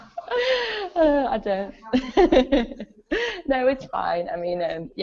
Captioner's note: both Laugh; laughs